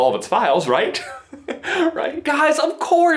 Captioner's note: nervous chuckle